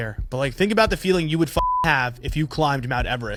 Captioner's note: beep